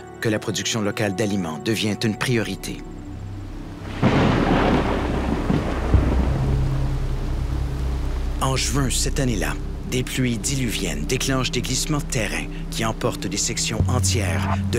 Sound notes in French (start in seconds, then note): 3.8 tonnerre